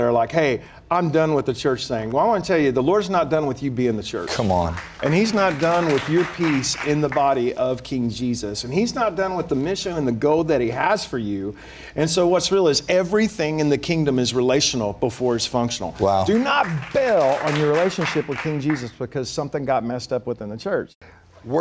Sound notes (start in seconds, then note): 4.6 applause; 16.2 applause